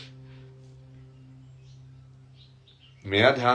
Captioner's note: नाक से की जाने वाली आवाज़